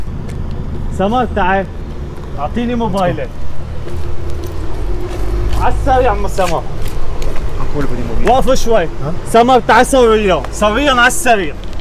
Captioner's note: he starts talking to someone in Arabic